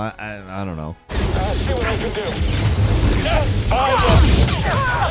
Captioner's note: guns shooting